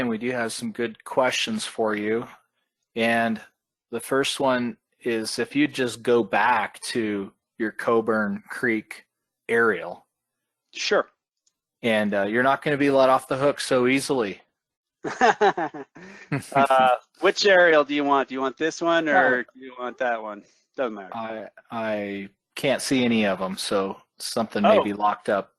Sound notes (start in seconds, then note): 15.0 laughing; 15.0 chuckles